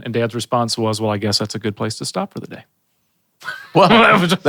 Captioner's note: chuckles